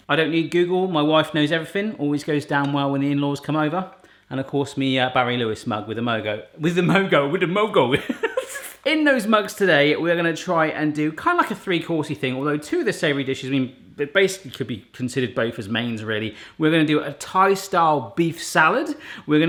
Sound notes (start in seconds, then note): 8.0 laughs